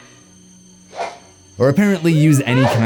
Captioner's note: blade swiping